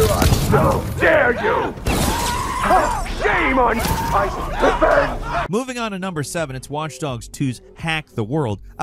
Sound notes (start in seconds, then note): 2.0 enemy screaming